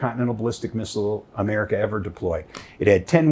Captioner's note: slapping knees